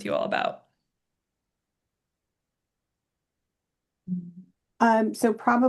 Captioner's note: silence